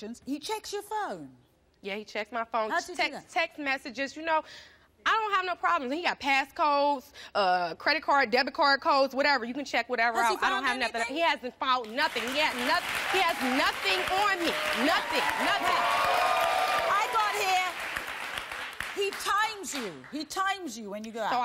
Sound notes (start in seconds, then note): 16.4 audience applauding